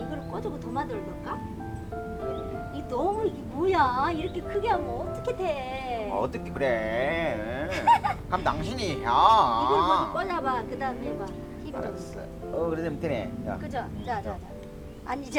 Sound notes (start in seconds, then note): 6.0 impersonating